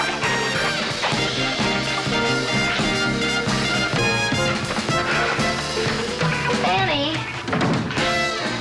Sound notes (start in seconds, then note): 3.7 sighs; 5.2 door closes